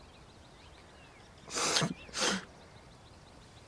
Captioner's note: sobs